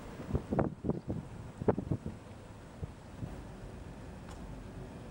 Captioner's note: rüzgar yüksek sesle esiyor